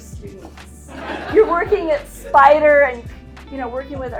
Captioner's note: attendees laughing